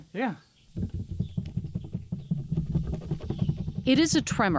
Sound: table rattling

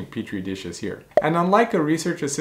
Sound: bubble popping

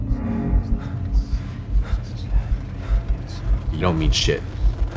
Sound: breathing heavy

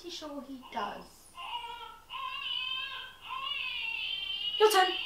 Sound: child crying heard over a baby monitor

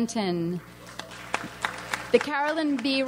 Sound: audience applauds

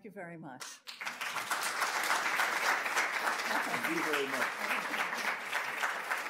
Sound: audience applauds

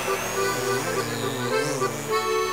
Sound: buzzing

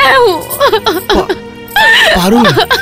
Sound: crying

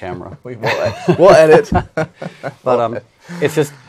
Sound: laughs

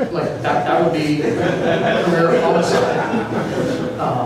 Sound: laughter

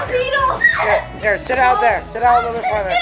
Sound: squealing

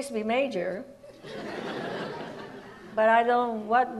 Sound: audience laughs

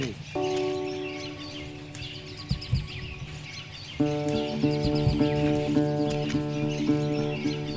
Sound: sound of birds singing

